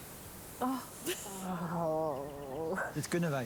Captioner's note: laughter and sighing